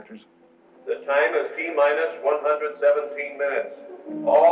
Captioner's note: man on PA